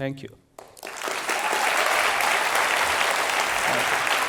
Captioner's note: applause